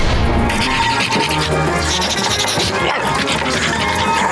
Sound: sniffing, barking

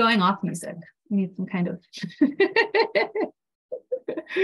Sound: laughs

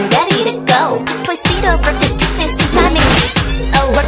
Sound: stab

